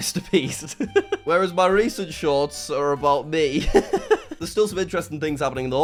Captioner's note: chuckles; laughs